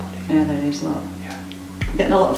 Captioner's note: whispering